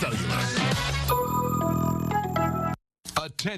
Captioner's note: tones play